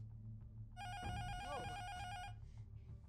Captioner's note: intercom buzzer rings